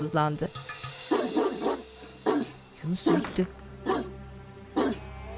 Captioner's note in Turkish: Köpek havlama sesi